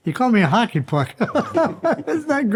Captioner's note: all chuckle